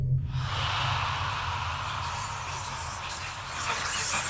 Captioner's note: ghosts whispering